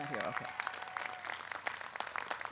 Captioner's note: audience cheering